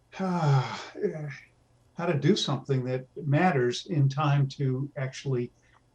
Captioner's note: sighs